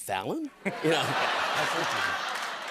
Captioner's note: laughter and applause